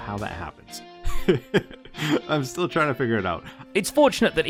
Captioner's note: laughs